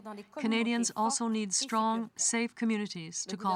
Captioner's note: speaking french